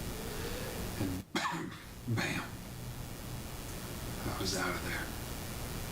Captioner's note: chokes